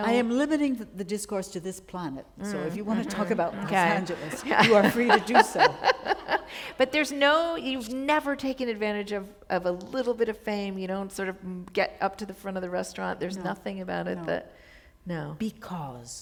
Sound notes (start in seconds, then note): 6.3 laughter